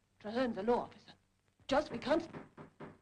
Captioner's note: knock at door